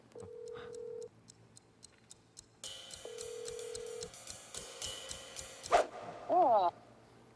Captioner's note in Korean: 휴대전화 통화 연결음